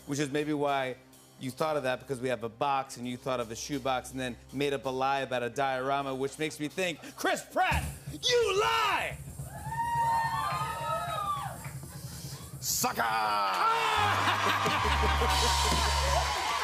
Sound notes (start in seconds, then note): 9.4 audience cheers; 16.4 laughter